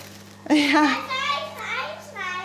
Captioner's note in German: Kinderrufe